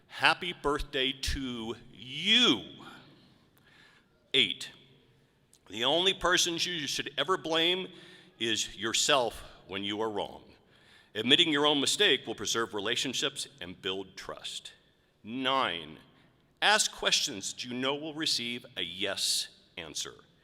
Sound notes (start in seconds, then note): none